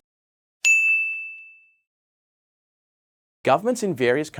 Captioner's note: bell dinging